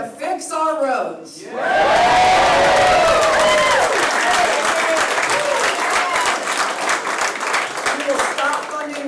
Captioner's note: applause